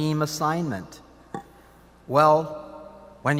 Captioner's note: none